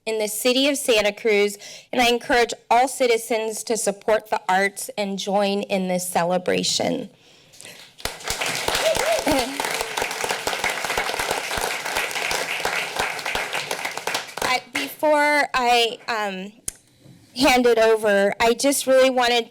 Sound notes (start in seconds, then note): 7.6 applause